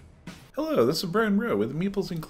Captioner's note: voiceover